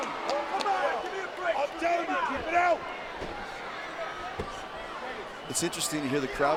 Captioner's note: crowd chatter